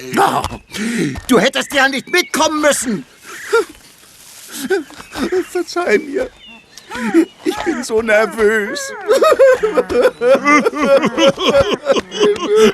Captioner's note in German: gelächter